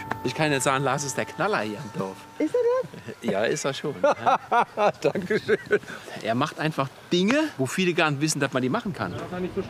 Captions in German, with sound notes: Ich kann Ihnen sagen, Lars ist der Knaller hier im Dorf. Ja, ist er schon. - (lacht:) Danke schön. Er macht Dinge, wo viele gar nicht wissen, dass man die machen kann.